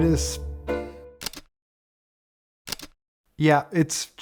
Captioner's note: camera shutter clicks